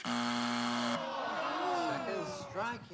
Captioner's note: buzzer